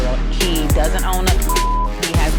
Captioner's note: beeping